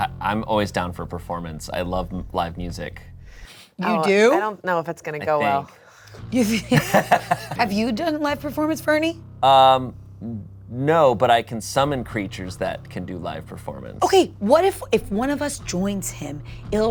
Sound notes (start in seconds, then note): 6.6 all laugh